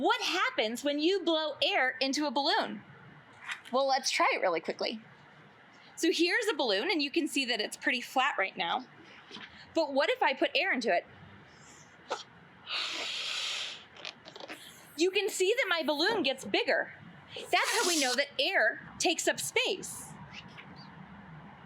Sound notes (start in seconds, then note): 11.5 sound of air being blown into the balloon